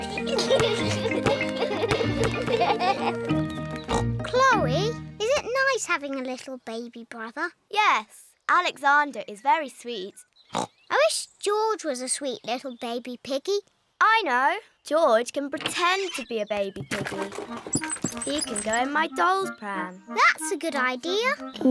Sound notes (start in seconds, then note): 0.0 oinks; 0.0 youngsters giggle